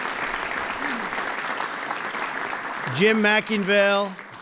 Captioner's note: applause